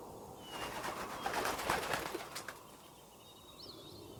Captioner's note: wings flap